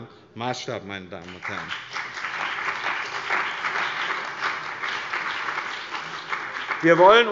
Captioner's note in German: Beifall bei dem BÜNDNIS 90/ DIE GRÜNEN und der CDU